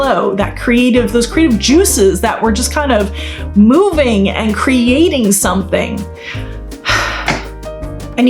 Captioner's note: sighs